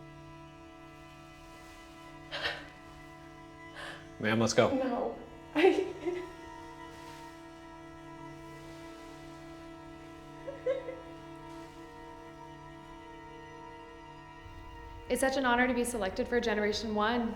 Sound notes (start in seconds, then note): 5.4 sobbing; 10.4 crying